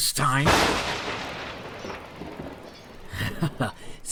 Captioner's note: thunder booming; laughs